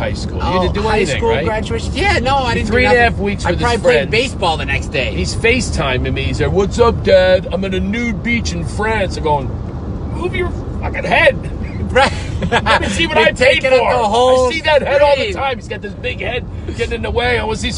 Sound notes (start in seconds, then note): 11.6 laughing